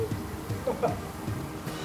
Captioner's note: haha